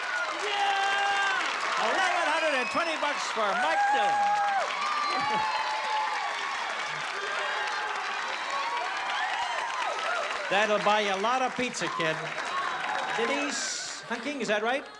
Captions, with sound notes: Yeah! - $1,120 for Mike Dillon. [CHEERING] That'll buy you a lot of pizza, kid. Denise Hunting, is that right?